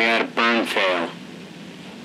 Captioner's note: none